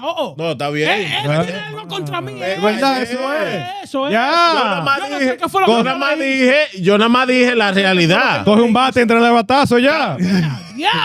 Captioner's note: speaking In Foreign Language